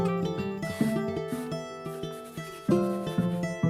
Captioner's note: brushstrokes on the canvas